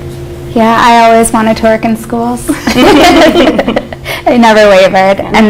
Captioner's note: laughs